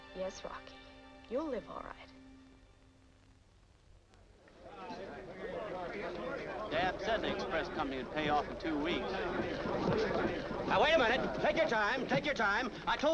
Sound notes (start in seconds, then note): 4.4 crowd chattering